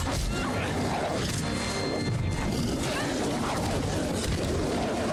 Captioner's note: dramatic music; wolves snarling